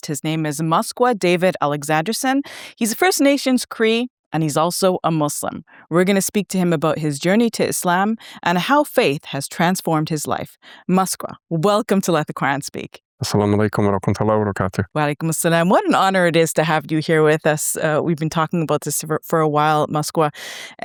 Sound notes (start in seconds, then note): 13.4 speaking foreign language